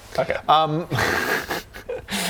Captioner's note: cracks up